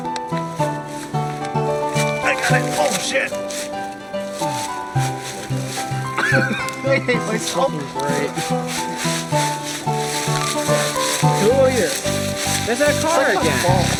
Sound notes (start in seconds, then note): 6.0 laughing; 10.2 leaves rustling